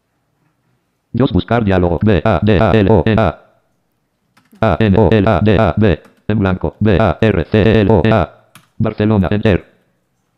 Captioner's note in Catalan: veu del lector de pantalla